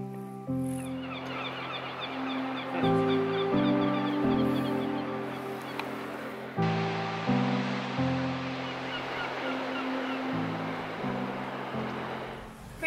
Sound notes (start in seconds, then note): 1.4 birds chatter; 6.6 gentle orchestral music; 9.5 waves crash